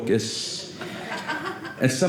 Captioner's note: audience laughing